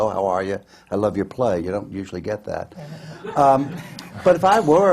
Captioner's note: laughter